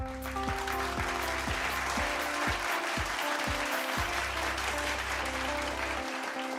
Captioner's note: applause; light instrumental music